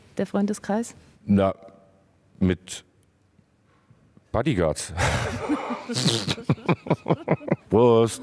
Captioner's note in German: lacht